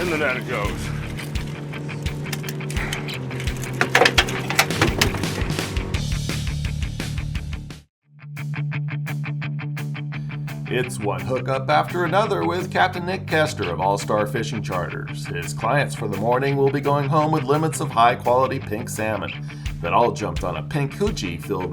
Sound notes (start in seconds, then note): 3.5 fish thrashing